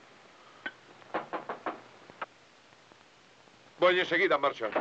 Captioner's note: knocks at door